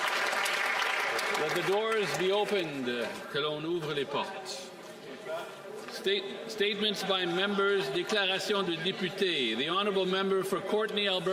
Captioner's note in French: applaudissements